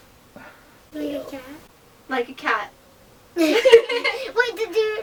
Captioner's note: all laugh